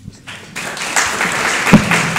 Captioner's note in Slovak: aplauz